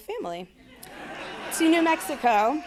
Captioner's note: audience laughing